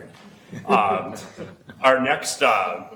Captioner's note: chuckling